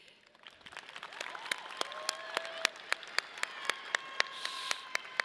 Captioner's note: audience applauding